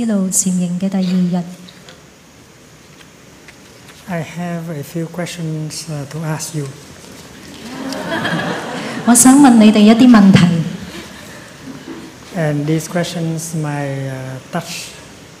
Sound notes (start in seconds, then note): 7.5 laughter